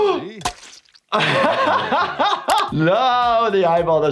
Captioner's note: gasps; laughs